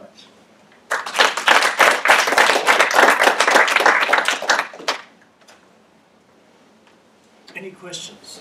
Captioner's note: applause